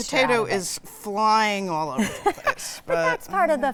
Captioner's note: laughing